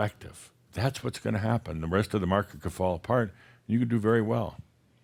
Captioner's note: none